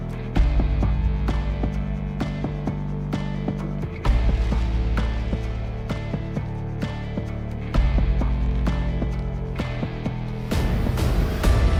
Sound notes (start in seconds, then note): none